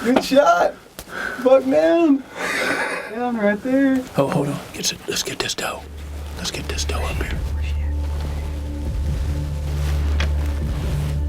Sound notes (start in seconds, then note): 4.6 whispering